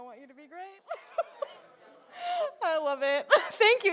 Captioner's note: chuckles